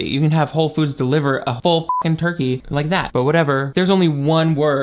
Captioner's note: beep